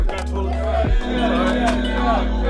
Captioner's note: group chatters